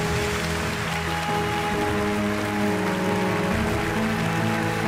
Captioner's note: audience applauding